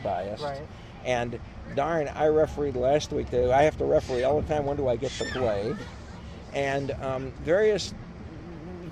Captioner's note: child laughs